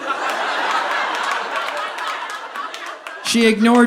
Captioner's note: audience laughing